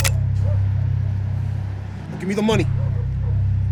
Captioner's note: gun cocks